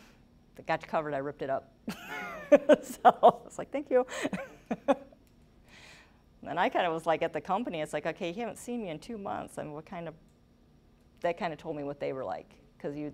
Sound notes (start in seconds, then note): 4.2 laughing